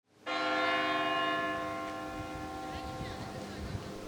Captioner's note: bell tolls